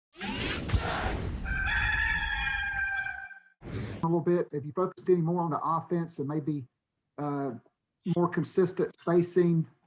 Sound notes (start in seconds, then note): 0.2 swooshing; 1.4 rooster crows